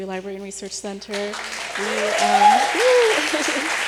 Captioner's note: applause